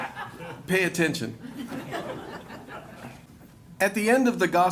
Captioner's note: laughter